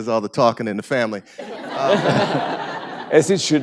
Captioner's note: laughter